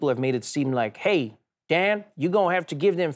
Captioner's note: in Southern American accent